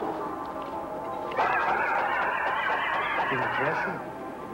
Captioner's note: sword whistling